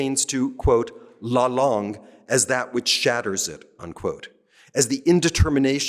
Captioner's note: french